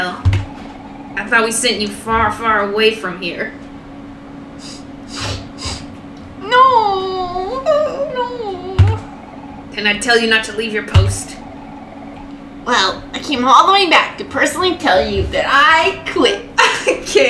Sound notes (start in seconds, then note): 7.5 sniff sniff